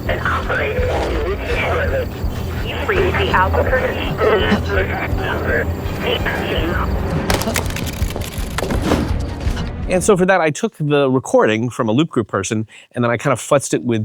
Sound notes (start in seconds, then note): 7.2 phone thuds; 7.3 footsteps clomping; 7.3 phone static crackling; 8.6 tense music